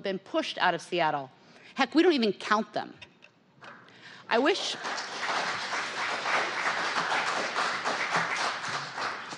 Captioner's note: applause